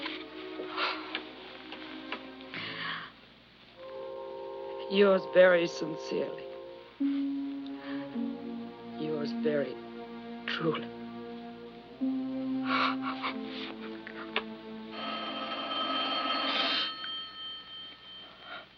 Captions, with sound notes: [ SIGHS ] "YOURS VERY SINCERELY." "YOURS VERY TRULY." [ SOBS ] [ TELEPHONE RINGS ]